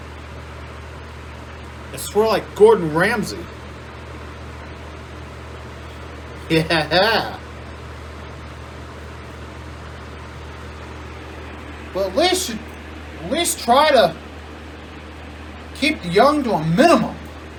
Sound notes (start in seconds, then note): 6.5 Ella laughs